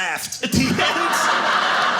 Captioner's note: audience laughing